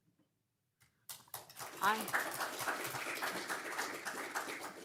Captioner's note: crowd clapping